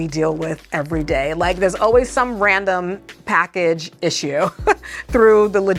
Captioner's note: chuckles